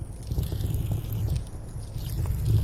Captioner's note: fire crackling louder